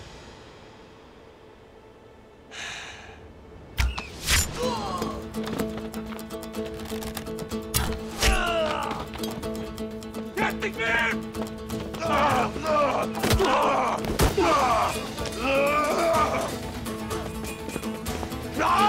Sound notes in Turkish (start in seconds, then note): 3.8 Ok sesi; 4.5 İnleme sesi; 7.5 Ok sesi; 8.0 İnleme sesi; 11.3 Dövüş sesleri